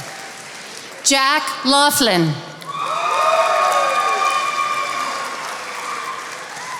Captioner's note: attendees applauding